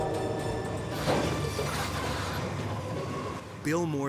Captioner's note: vehicles thudding